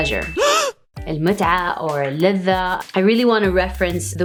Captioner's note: gasp; speaks foreign language